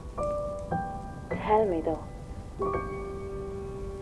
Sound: from tv

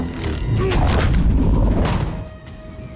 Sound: groan

